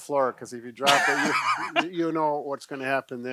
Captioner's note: laughing